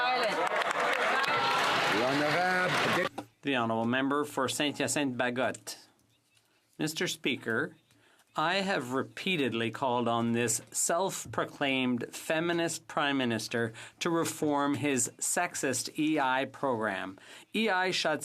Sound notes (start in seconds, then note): 3.8 some Applause